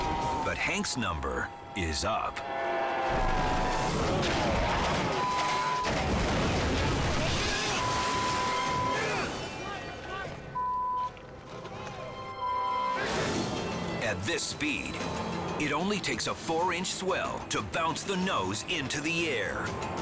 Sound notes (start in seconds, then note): 4.1 boat crashing; 5.2 beep; 9.1 crowd chattering; 10.5 beep